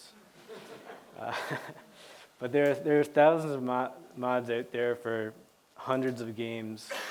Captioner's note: laughter